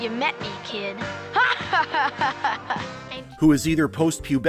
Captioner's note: arrogant laughter